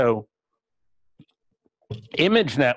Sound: pause

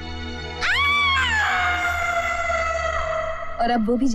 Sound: screams

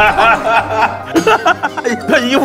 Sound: laughing

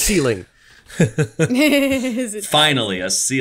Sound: laughs

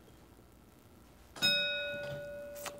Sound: ding

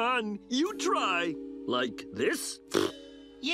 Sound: blowing raspberry

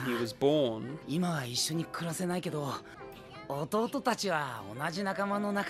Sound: Heart speaks in foreign language

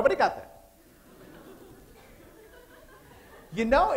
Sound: laughter

